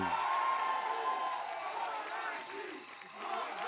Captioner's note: cheers and applause